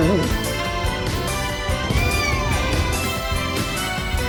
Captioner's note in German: Caprice miaut; Ella knurrt; Caprice miaut